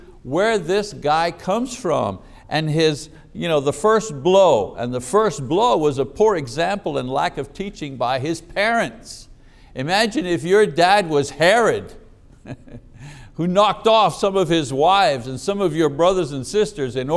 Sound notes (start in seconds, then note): 12.3 chuckling